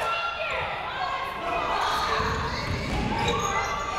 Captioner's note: crowd noise